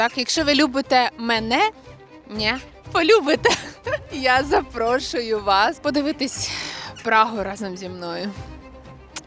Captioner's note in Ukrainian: сміх